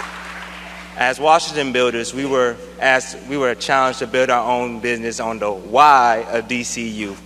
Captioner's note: applause